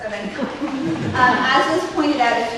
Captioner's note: scattered laughter